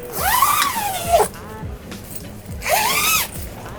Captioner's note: zip unzipping